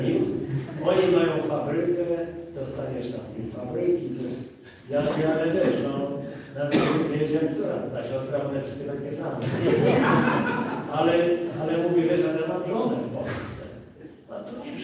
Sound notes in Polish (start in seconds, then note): 9.4 śmiech z sali